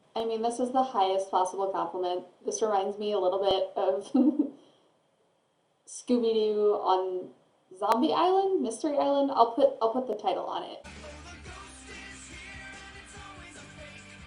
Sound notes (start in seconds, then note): 4.1 laughs